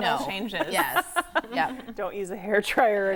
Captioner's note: laughing